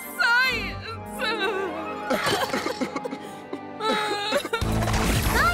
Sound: gentle music; both crying; energetic music

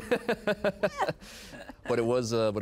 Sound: laughing

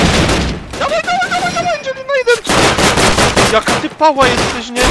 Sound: screaming like a little girl

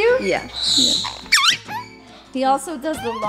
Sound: parrot chirps

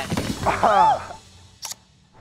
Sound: laughs

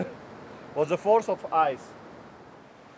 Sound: chuckling

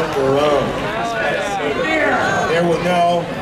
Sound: audience chattering

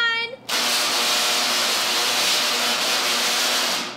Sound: lighting buzzing

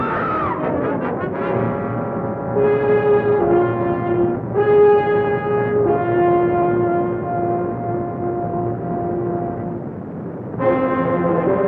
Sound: shriek

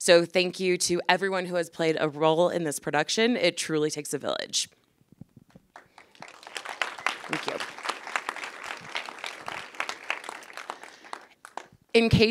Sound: applause

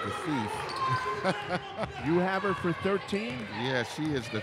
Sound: laughs

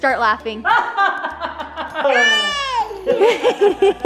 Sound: laughing

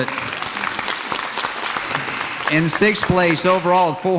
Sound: audience applauds

